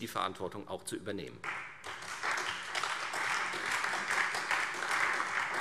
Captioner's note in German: Beifall Freie Demokraten